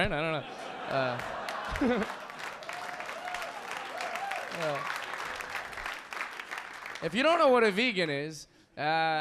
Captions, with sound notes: (audience laughing) (audience clapping) If you don't know what a vegan is,